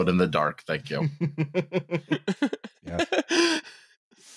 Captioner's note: laughs